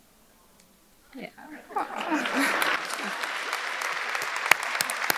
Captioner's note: audience clapping